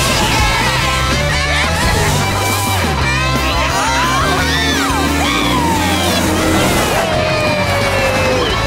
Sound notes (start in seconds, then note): 3.4 speeding